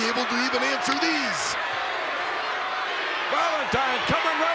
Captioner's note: crowd shout